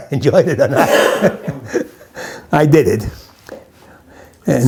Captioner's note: laughs